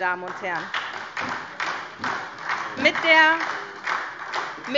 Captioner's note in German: Beifall SPD und DIE LINKE